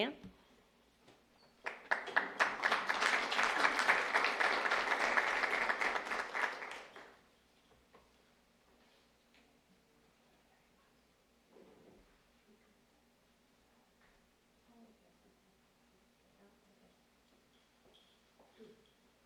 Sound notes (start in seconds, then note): 6.6 applause